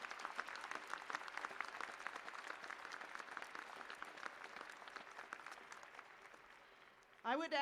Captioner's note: applause